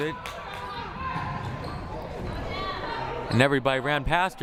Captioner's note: crowd murmuring